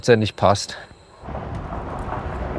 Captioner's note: vehicle noise